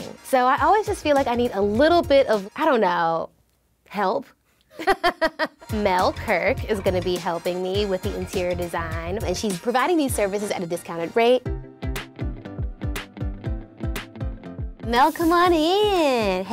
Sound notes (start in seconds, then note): 4.8 laughs; 11.5 upbeat music